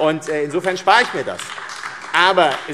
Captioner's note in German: Beifall AfD